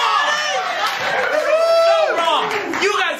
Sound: laughter

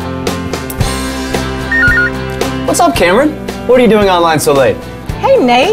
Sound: computer beeps

